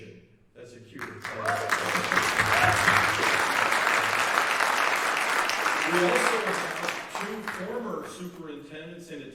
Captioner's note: applause